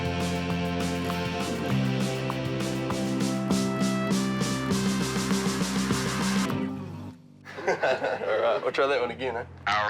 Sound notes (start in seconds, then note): 7.5 laughs